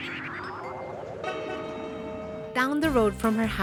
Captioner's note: horn honks